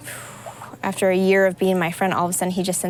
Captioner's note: exhaling